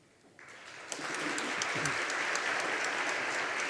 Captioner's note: audience applauding